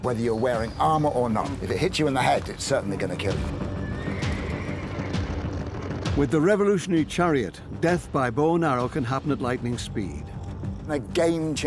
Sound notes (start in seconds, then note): 5.2 horse whinnies